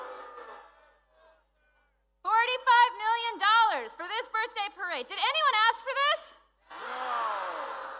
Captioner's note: cheering